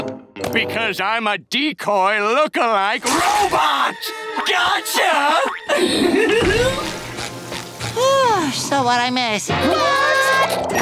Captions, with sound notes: Because I'm a decoy lookalike robot! Gotcha! [laughing] [sighing] So what'd I miss? What?!